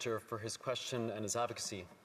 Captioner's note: speaking French